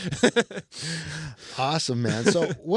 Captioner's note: laughs